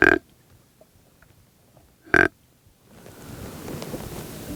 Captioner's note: deer call grunting